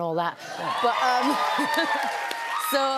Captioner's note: cheers and applause